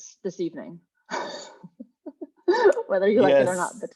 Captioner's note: laughing